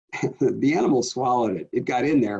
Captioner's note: chuckles